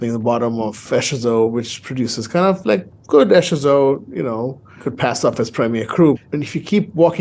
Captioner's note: none